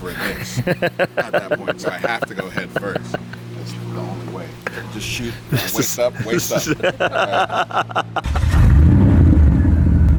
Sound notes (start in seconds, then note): 5.4 laughter; 6.4 car engine